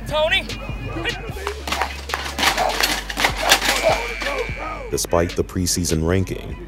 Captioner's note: hitting